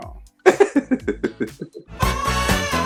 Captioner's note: laughing